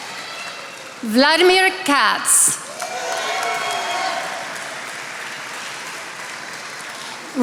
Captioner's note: attendees applauding